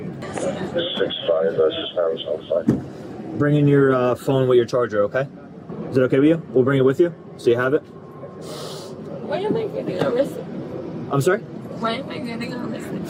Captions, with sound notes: (Radio chatter) Bringing your phone with your charger, okay? Is it okay with you? We'll bring it with you, so you have it Why am I getting arrested? I'm sorry? Why am I getting arrested?